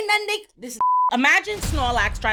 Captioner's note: beep